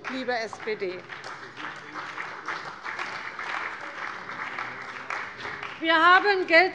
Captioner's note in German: Beifall bei der CDU und dem BÜNDNIS 90/DIE GRÜNEN